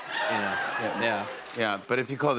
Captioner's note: audience cheers